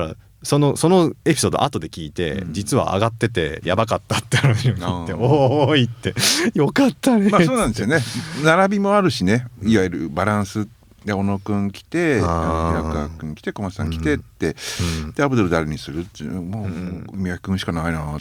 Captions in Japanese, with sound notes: [笑い] ま、そうなんですよね。並びもあるしね。 いわゆるバランスで小野君来て君来てこまさん来てって でアブドル誰にするってもう君しかないなと思ってね。